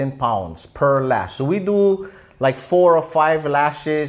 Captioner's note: none